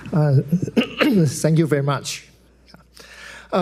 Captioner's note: clears throat